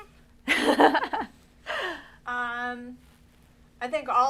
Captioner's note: laughter